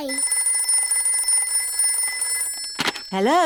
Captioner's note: phone rings